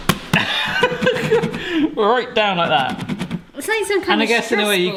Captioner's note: laughs